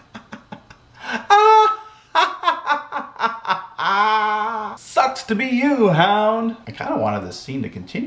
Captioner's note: laugh